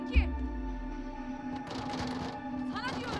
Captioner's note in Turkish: Kapı zorlama sesi